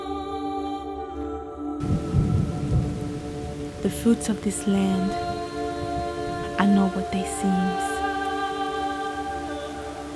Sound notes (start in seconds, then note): 0.2 ethereal music; 2.6 rain falling